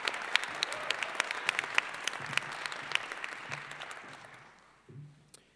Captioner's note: applause